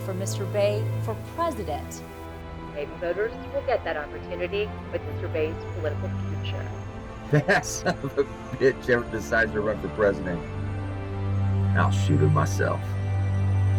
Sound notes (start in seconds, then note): 7.3 chuckles